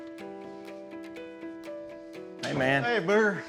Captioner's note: door opens, closes